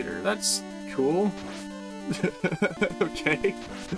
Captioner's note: chuckles